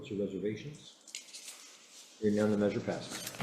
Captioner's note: papers rustling